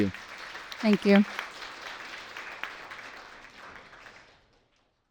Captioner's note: audience applauds